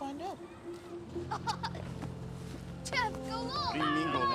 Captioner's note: laughing